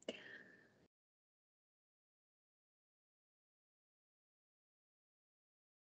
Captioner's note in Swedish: Tystnad